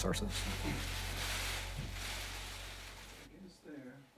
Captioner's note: bag rustling